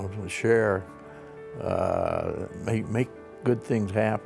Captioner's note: none